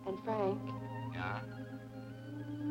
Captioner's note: on telephone